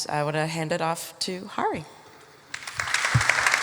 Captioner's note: audience applauding